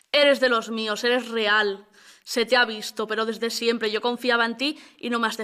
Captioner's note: none